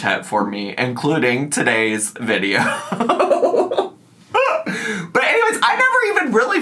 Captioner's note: laughs